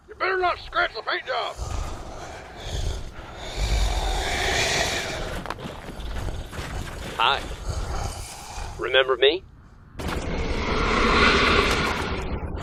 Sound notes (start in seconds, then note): 0.2 META hissing; 10.5 META hissing angrily